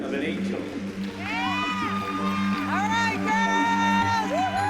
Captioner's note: applause and cheering